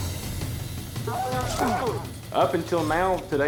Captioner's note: steer lowing